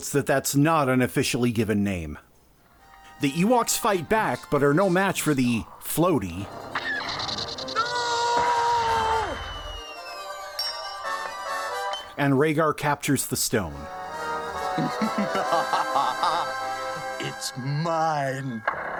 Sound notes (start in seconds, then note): 6.6 electric beam; 10.6 clink